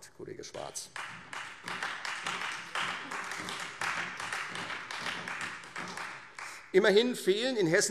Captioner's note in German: Beifall Freie Demokraten und vereinzelt SPD